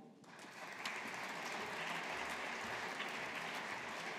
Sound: audience applauding

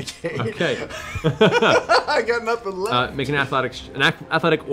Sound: laughs

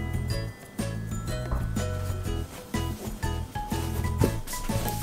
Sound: wrapping cloth

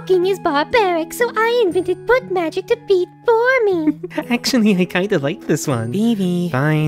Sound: giggles

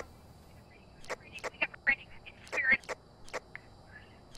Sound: over Radio

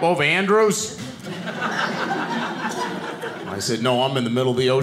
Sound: audience laughing

